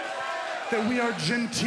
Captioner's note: crowd cheering